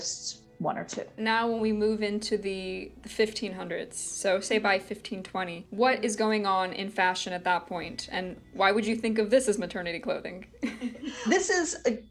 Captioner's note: laughs